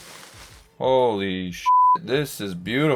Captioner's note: beeping